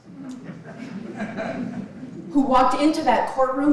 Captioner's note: audience laughing